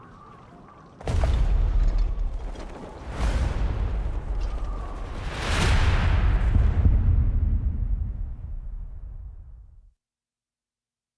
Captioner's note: wind blowing